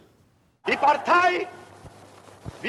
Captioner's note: speaking German